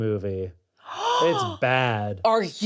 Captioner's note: gasps